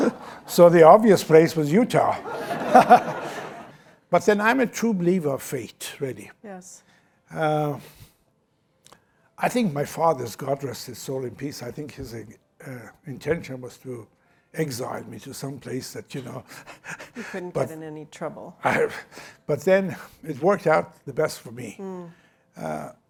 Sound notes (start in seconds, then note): 2.0 laughter; 16.4 chuckles